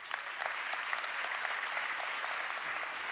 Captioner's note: applause